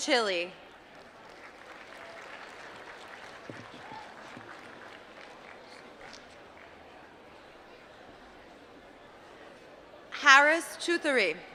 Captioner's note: applause